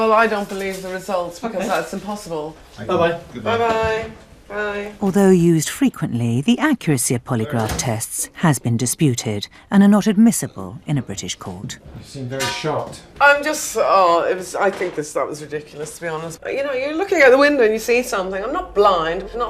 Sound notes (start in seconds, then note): 5.5 voiceover; 12.3 voiceover